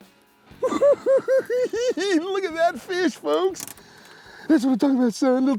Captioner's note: laughs